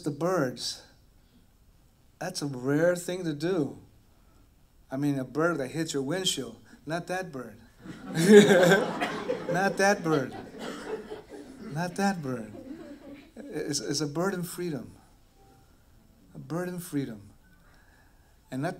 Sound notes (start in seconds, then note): 7.8 laughter